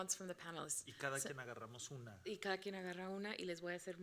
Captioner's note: speaking Spanish; moderator speaking Spanish